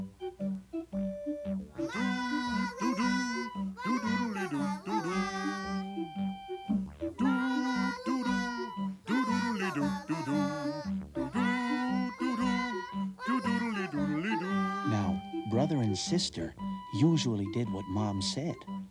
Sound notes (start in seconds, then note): 1.8 all humming